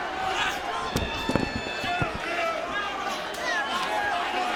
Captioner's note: crowd cheering